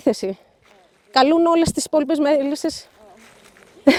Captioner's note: speaking greek